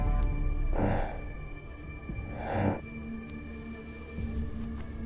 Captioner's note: heavy breathing